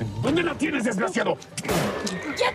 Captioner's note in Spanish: Disparo